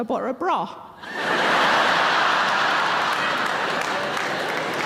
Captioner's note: audience laughing